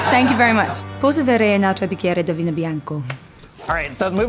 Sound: speaking italian

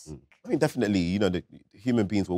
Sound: none

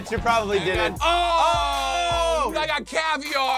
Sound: both scream

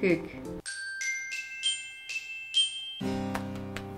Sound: jingle sound effect

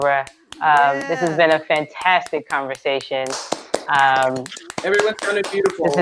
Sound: applause

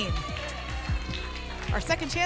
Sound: applause and cheering

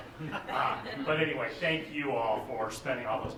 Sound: laughter

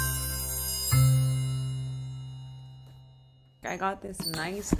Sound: bell ringing

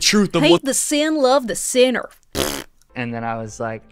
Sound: blows raspberry

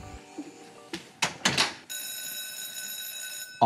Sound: bell ringing

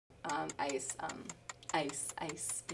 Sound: clock ticks

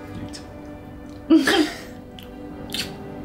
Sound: karl and emma joyfully giggle

